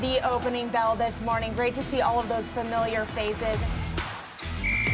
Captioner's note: whistle